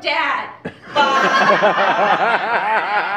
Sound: laughter

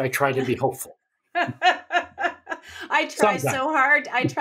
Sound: laughs

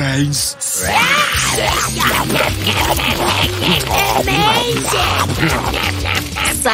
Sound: chomping sounds

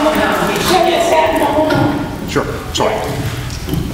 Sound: audience chatter

